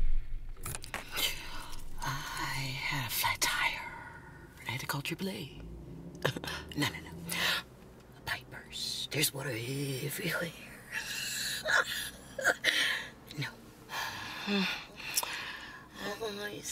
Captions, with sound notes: - I had a flat tire. I had to call triple A. No, no, no a pipe burst, There was water everywhere. (Crystal laughing) No. Hmm, why you so pretty.